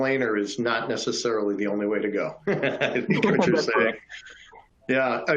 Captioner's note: laughs